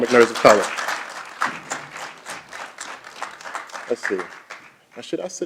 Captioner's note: applause